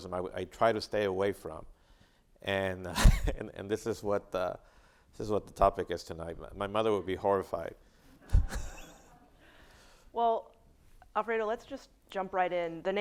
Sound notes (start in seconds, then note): 2.9 chuckling; 8.2 chuckling; 8.2 audience laughs